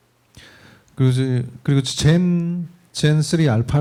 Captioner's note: speaking korean